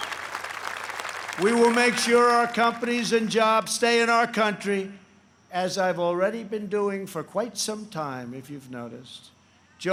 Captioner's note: applause